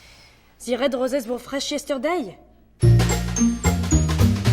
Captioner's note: with French accent